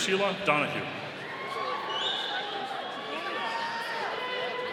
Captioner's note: audience cheering